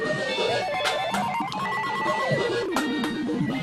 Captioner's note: laughs